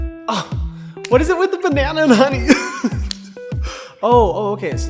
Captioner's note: laughs